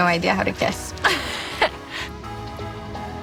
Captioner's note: chuckles